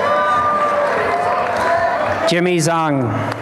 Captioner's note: applause and cheering